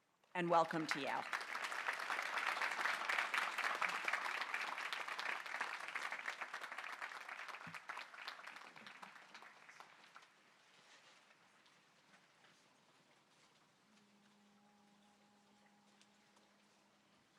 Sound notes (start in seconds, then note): 6.0 applause